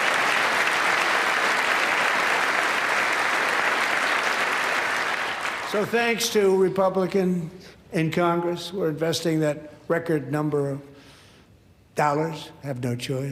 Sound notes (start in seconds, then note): 1.7 applause